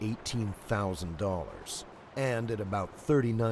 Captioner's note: voiceover